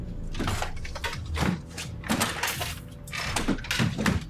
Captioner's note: doors bang